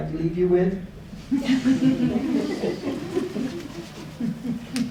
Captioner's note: audience chuckling